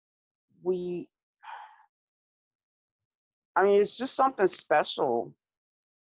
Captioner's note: sighs